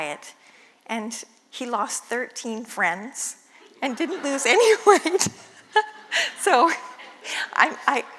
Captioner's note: laugh